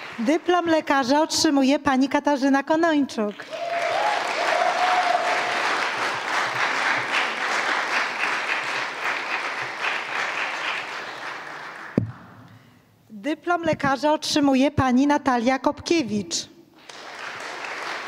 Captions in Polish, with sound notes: Dyplom lekarza otrzymuje Pani Katarzyna Konończuk. [oklaski] Dyplom lekarza otrzymuje Pani Natalia Kopkiewicz.